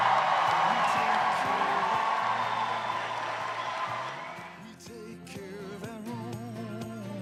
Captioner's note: cheers and applause; closing music